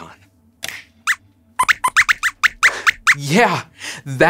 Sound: squeaks squeaks

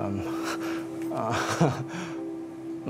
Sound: laughter

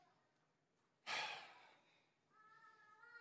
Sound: sighs

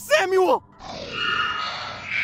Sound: Screech

